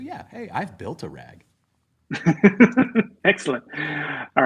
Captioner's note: laughter